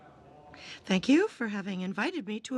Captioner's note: speaking French